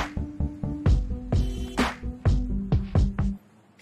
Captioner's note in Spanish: Claxon